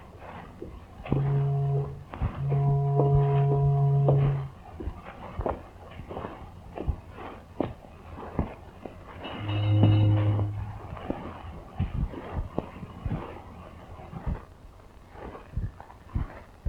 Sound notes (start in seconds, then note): 1.0 ship horn moaning; 9.2 ship horn moaning